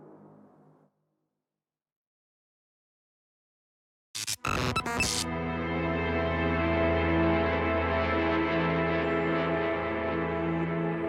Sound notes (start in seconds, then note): 4.2 static hisses and buzzes; 4.8 tense music